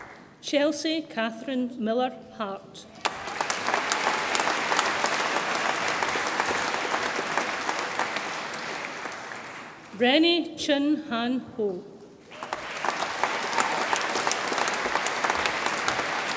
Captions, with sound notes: Chelsey Catherine Miller Hart, (audience applauds) Renee Chin Han Ho, (audience applauds and cheers)